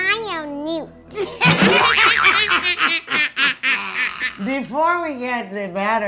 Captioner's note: both laughing